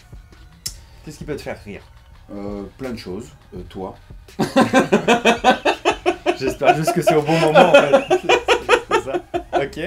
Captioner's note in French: rires